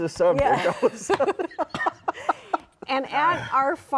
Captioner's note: all laugh